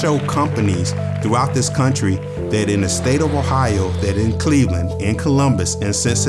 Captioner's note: applause; upbeat music